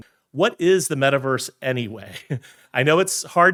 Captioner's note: chuckles